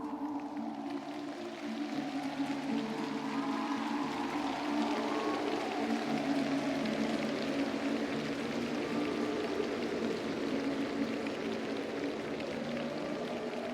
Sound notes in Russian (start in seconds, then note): 0.0 ликование; 0.0 аплодисменты